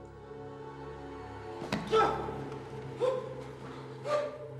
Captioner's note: grunting